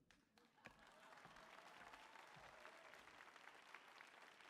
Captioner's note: audience applauding